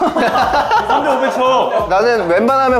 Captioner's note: just laughing